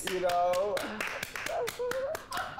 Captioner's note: hosts clapping; Peppermint laughs